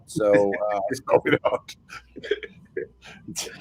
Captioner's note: all laugh